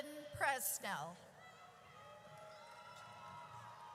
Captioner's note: audience cheers